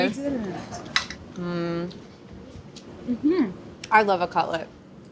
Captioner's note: humming